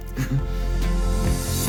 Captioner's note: gentle music; giggles